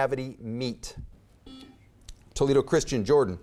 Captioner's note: buzzer beeps